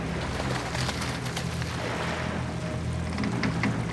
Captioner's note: water splashes